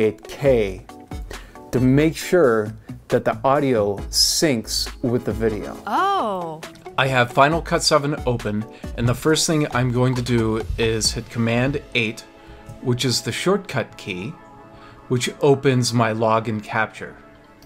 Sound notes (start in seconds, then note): 5.8 female voice: Ohhhh